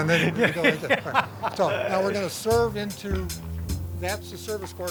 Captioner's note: laughter